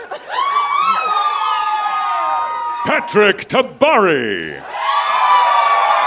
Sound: cheers and applause

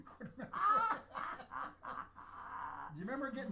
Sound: both laugh loudly

